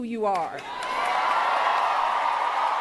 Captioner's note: cheers, applause